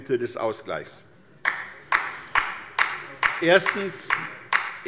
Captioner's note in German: Beifall bei der LINKEN